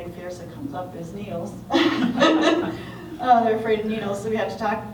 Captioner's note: laughter